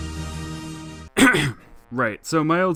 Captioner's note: clears throat